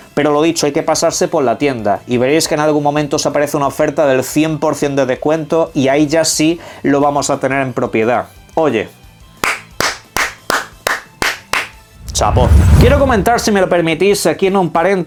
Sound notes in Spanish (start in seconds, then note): 9.4 aplausos